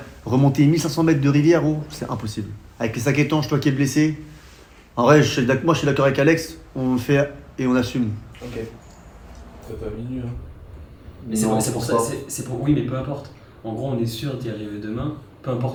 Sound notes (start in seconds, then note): 11.5 stuttering